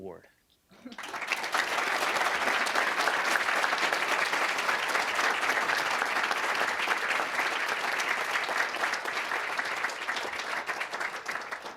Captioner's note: applause